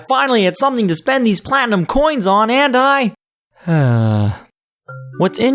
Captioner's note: sigh